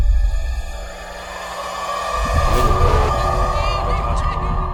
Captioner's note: siren wails